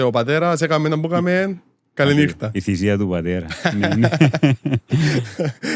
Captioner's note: laughs